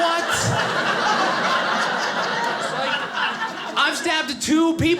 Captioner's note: audience laughing